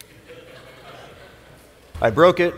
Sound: laughter

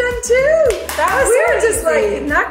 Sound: claps

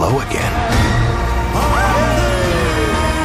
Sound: cheering

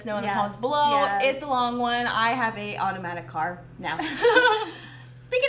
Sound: laughs

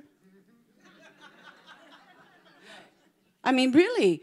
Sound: congregation laughing

